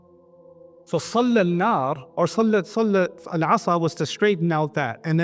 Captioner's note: Arabic